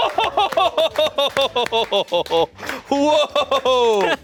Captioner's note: laughing; audience members clapping